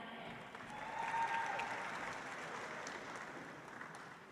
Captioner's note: audience applauds